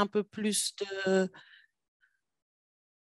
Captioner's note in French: silence